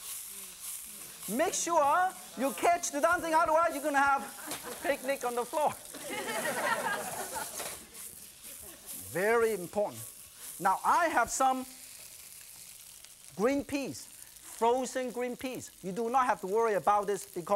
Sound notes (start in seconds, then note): 5.8 audience laughs